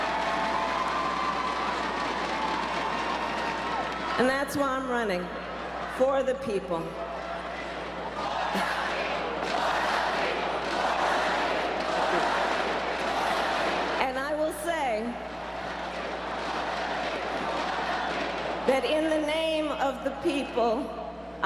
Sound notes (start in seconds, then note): 8.4 crowd; 16.7 crowd